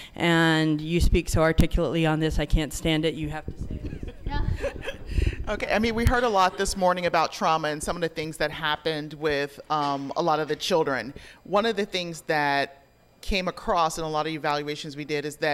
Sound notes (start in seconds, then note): 3.7 group laughing